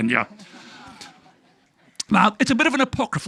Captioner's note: audience laughing